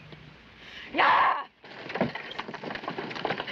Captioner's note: yells